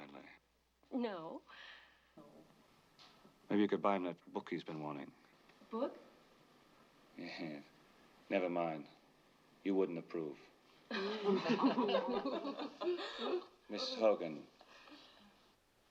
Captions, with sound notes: [ Chuckles ] Never mind.bottom You wouldn't approve. [ Laughing ] Mrs. Hogan,